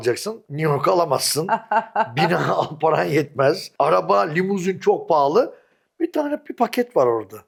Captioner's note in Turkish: kahkaha